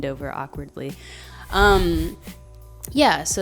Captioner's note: snickering